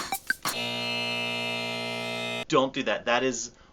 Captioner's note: buzzer